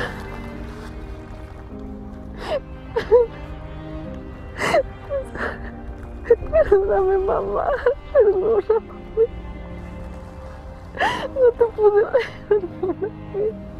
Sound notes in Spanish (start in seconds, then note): 8.8 llora